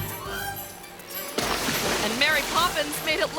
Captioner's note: tense playful music; water sploshes